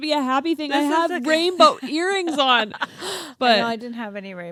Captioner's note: laughs